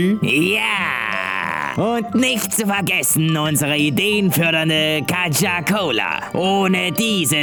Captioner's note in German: böse grinsend betonen